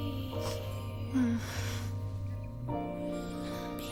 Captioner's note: moans